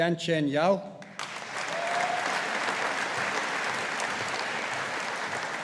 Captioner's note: audience applauding